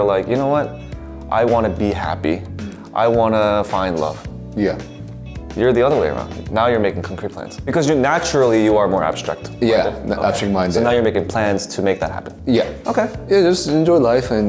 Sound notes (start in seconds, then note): none